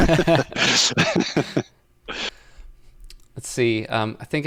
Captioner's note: laughter